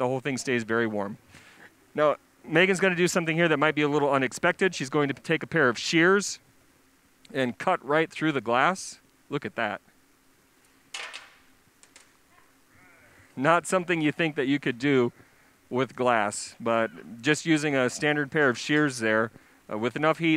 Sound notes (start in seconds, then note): 10.1 soft clatter